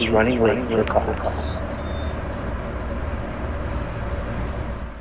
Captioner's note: elevator sound